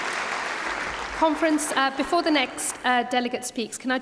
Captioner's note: applause